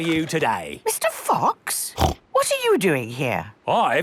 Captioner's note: snorts